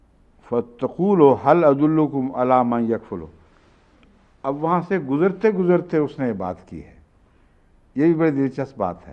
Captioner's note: Arabic